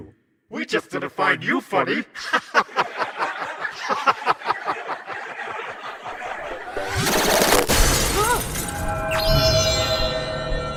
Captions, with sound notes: We just didn't find you funny! [LAUGHS] [VARIOUS LAUGHS]